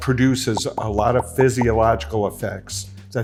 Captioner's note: bubbles popping